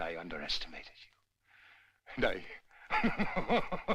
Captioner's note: laughing